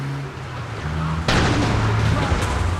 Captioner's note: gun firing